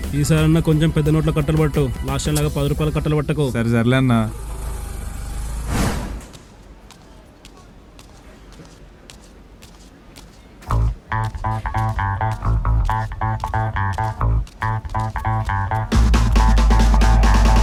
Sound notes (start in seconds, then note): 9.4 man walking